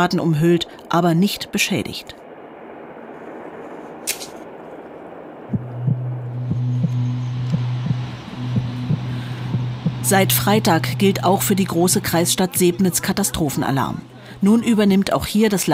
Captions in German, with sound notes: sind zwar von Rauchschwaden umhüllt, aber nicht beschädigt." *Töne des Herzklopfens* Seit Freitag gilt auch für die große Kreisstadt Sebnitz Katastrophenalarm.